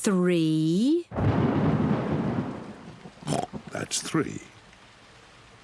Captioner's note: thunder rumbles; oinks